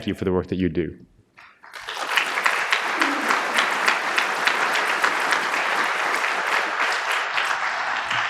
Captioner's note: applause